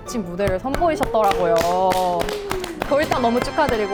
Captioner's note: applause